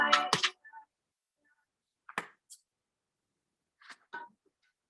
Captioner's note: clapperboard shutting